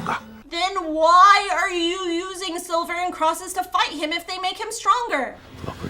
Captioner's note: voiceover